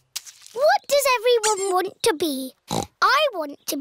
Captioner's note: snorts